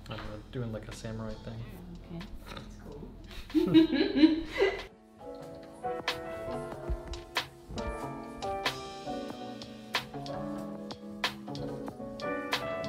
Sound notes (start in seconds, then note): 6.2 laughs; 7.7 jazz music